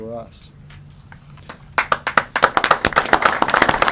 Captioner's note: applause